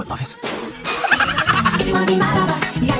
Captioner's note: laughing his butt off